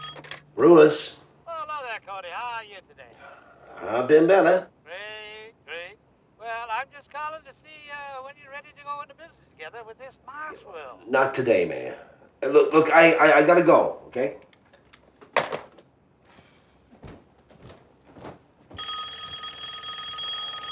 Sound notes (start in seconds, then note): 16.2 sighing; 18.7 phone ringing